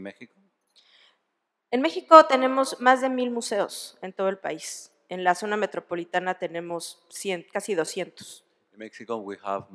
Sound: speaking spanish

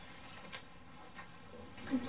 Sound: rubber snapping

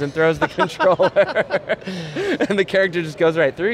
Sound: laughing

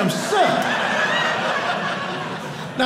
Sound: audience laughing

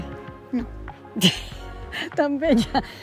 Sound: laugh

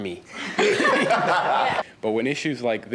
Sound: panel laughs

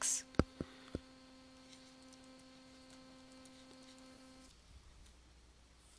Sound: pause in Lecture

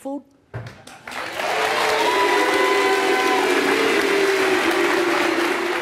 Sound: audience applauding and booing

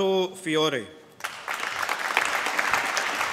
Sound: applause

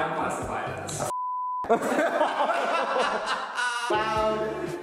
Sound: all laughing

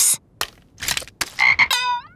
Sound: croaking

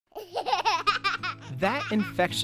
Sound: laughter

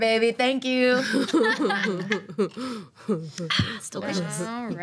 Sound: all laughing

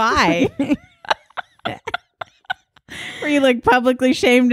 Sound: laughing

